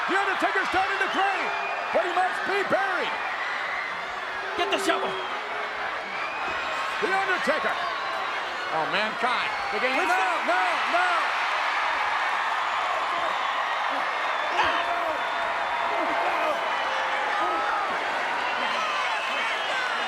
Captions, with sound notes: The Undertaker's down in the grave, but he must be buried. Get the shovel. The Undertaker, Mankind. No, no, no. (crowd cheering)